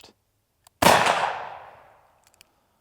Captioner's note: gun shooting